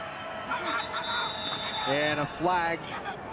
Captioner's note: whistle blowing